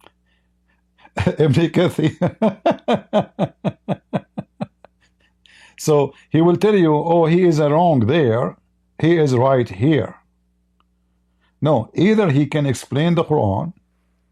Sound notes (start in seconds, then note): 1.0 Ketawa